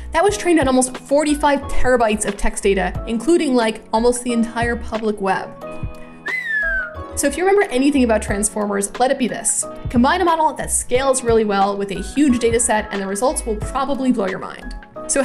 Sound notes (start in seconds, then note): 6.2 whistles